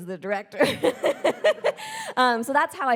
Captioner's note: laughing; audience laughing